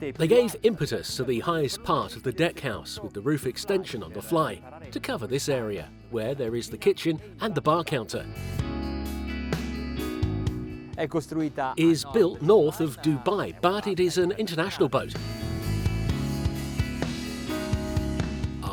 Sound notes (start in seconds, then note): 0.0 speaks in foreign language; 8.2 slow guitar music; 11.2 speaks in foreign language; 17.5 slow guitar music